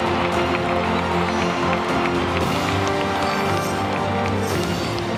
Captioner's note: applause